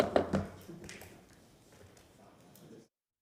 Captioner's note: sounding gavel